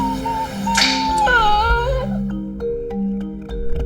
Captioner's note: Putter whines; thoughtful music